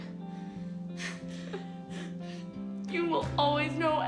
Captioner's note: laughs